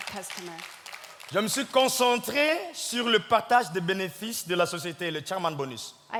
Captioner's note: audience clapping; speaking in French